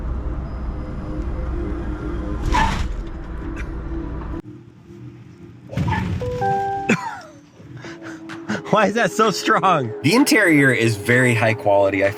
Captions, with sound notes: (car tires screech) (car tires screech) (car beeps) (laughs) Why is that so strong? The interior is very high quality.